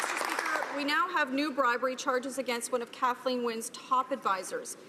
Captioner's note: some Applause